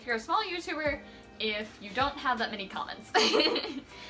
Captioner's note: laugh